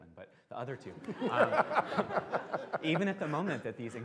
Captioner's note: laughter